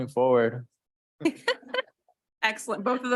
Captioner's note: laughing